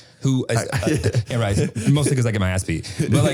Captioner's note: Harry laughing